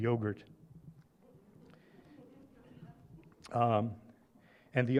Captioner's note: laughter